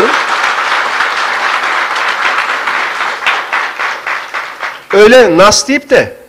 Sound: applause

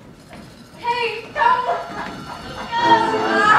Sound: clock's hands hissing; bells chiming; energetic music

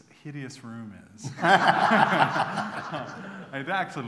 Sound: laughter

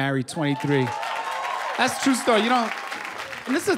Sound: cheers and applause

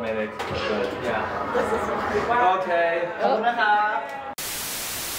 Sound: collective mumbling

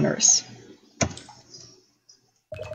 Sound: keyboard thud

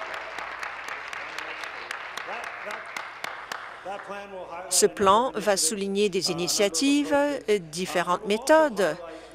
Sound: applause

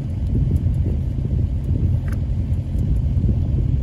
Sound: wire jangling

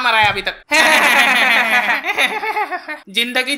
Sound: both Laughing

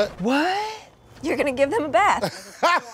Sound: laughing

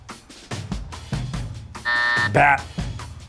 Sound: buzzer

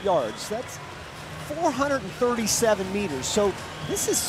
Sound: audience cheering

